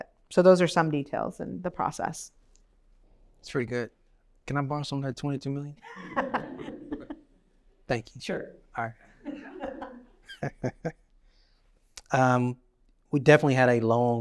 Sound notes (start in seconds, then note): 5.8 laughter; 9.2 laughter